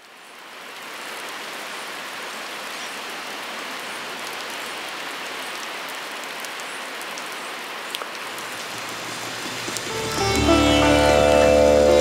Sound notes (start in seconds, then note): 1.2 rain falling, waves crashing